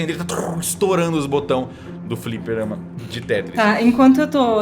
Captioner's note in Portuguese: som de botões